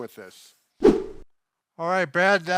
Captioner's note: whoosh